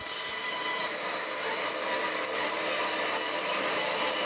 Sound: high whirring

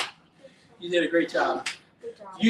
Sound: slaps hands

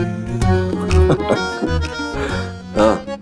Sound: Rohit laughs

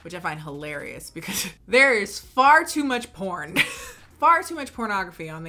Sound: laughing

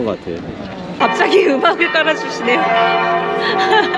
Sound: bell ringing

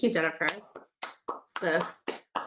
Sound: clapping

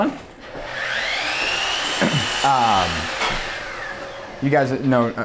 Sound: drill whirring

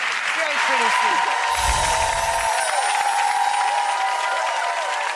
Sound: applause

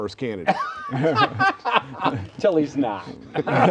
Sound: laughter

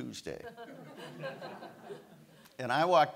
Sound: audience laughs

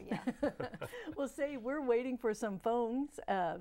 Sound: laughing

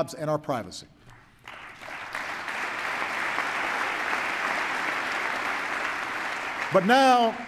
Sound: applause

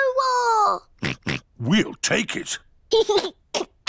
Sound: oinks; giggles

